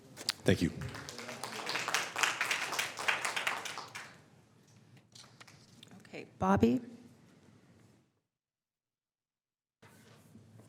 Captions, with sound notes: FACILITY TODAY. MICHELLE SHIRLEY. >> THANK YOU. [ APPLAUSE ] >> OKAY.